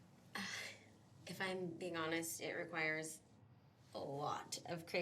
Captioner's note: sighs